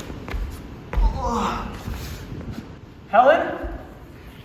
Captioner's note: Demetrius groans